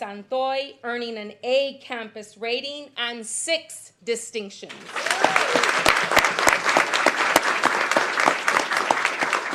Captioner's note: applause